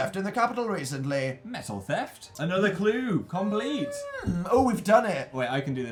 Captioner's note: squeals